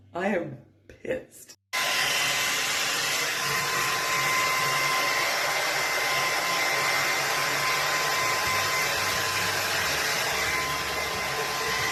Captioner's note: blowdrying